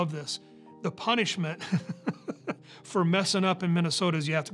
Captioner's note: laughs